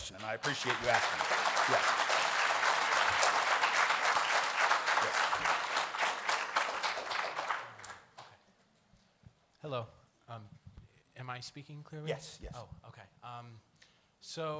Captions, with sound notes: and I appreciate you asking it, yes. [ Applause ]